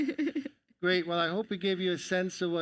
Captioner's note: laughs